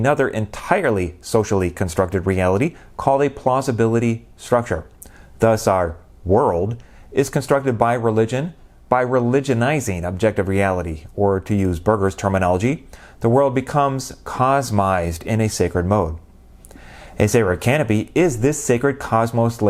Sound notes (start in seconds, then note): none